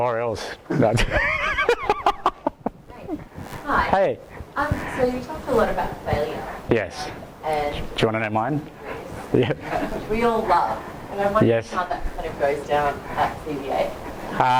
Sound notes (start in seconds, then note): 0.6 laughs; 3.2 voiceover; 9.2 laughs; 10.4 voiceover